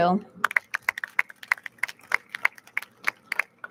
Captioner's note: audience claps